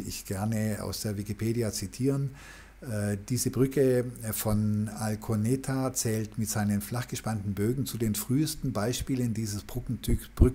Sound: german

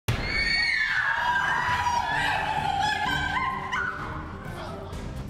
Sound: screaming

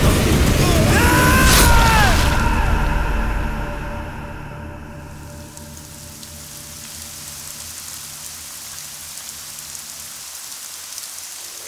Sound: rain Sound

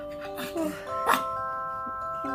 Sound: yawning

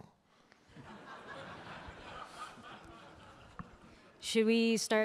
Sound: audience laughing

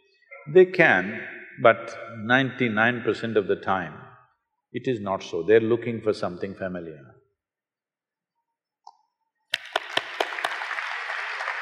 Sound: applause

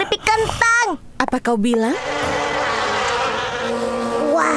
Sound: flies buzzing

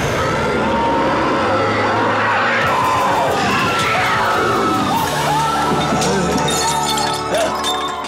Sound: roaring; screaming

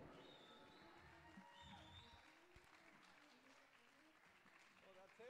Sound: audience cheering

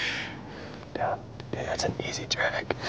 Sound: whispering

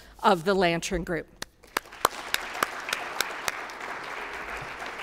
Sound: applause

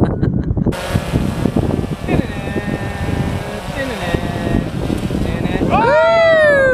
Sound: drone whirring; humming; men cheering

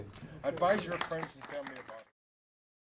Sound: applause

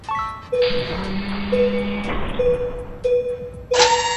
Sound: beeping alarm

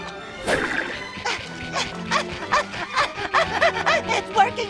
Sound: panting

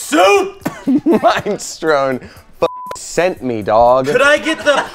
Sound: beep

